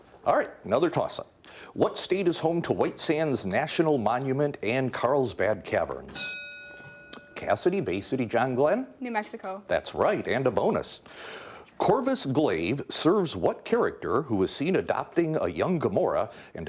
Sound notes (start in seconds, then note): 6.1 bell ringing